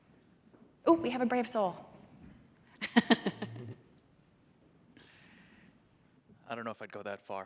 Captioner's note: laughter